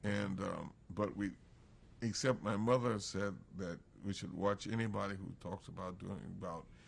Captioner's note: none